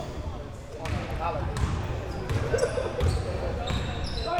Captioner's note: ball pounding